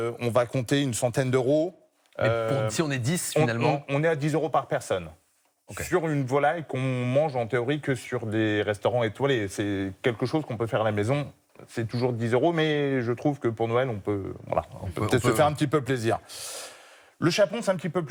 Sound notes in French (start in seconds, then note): 16.7 grognement